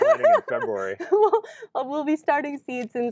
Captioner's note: laughs